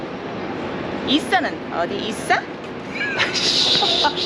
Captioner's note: laughing b/c she made a Korean joke with how "Ess-a" is pronounced